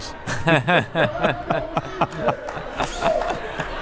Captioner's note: both laughs